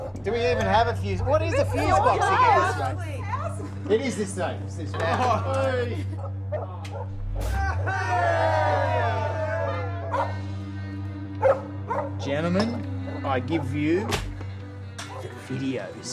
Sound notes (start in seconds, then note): 5.7 laughs; 6.7 powering up sound; 7.4 cheering; 10.1 barking